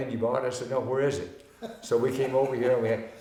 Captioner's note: laughing